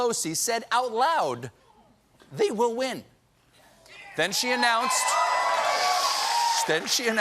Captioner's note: cheers and applause